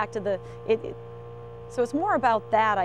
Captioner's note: boat engine roaring